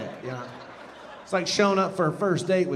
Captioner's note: audience laughing